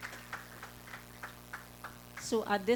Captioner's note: applause